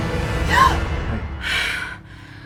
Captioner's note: gasping